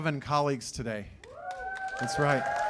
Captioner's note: cheers and applause